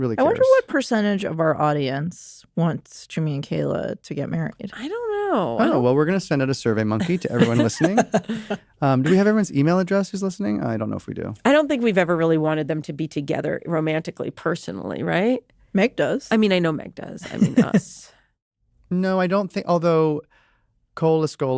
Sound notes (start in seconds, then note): 7.0 laughter; 17.3 chuckles